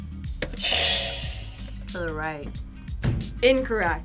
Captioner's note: buzzer rings